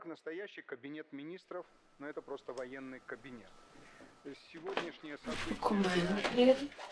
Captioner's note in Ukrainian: звук політичного ток-шоу з телевізора